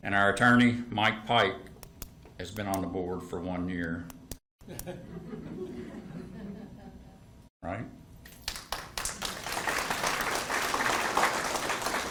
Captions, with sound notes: And our attorney, Mike Pike, has been on the board for one year. (attendees giggling) All right. (attendees clapping)